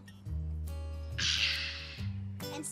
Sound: refreshed sigh

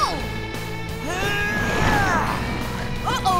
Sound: grunting

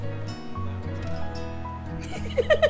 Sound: laughs

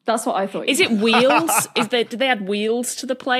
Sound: laughs

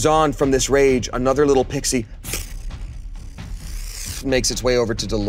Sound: makes fwoosh sound

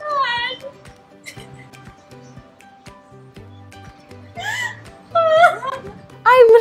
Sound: crying

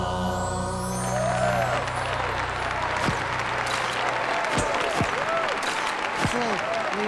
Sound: cheering and applause and flashes popping

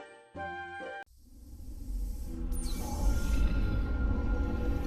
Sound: digitized dramatic sounds

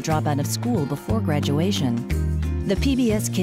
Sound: none

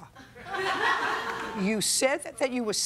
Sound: laughter

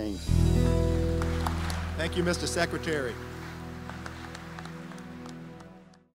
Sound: applause

